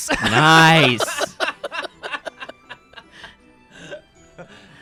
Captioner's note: laughs; guys laughing